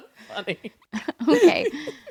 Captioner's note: laughs